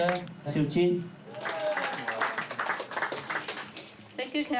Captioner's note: cheers and applause